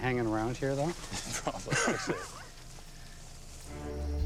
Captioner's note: laughs